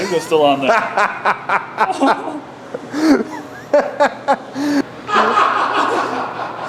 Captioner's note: laughter